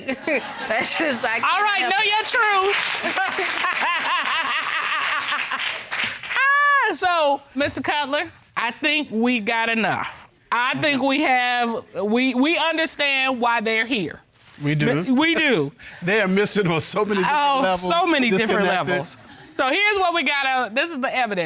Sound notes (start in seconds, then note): 1.8 audience applauds; 3.0 judge laughs